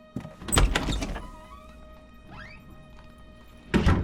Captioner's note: door clicks